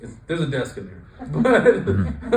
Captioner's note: laughs